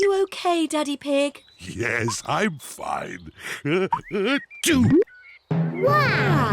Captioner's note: sneezes